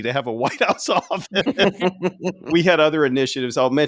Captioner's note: laughing